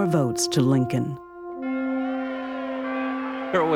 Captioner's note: cheering